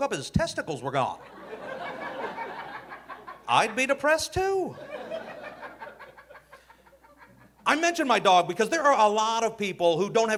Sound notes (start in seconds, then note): 1.2 audience laughing